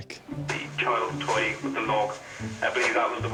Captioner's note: radio